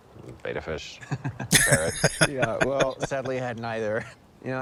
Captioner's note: laughing